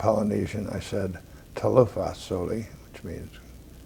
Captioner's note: speaking Polynesian